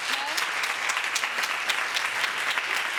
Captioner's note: audience applauding